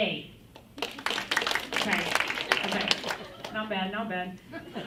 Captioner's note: applause